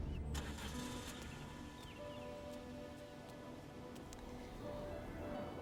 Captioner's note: car ignition turns over